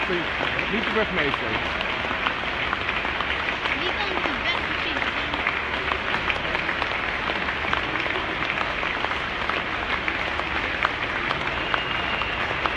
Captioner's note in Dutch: applaus